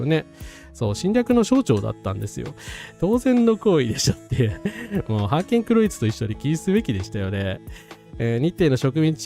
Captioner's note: laughs